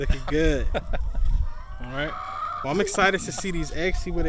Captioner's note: laughs